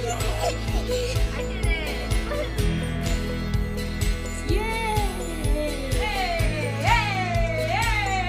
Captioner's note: children laughing